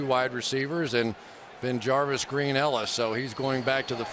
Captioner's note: crowd cheering